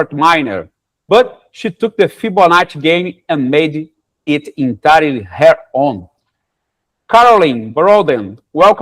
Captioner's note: none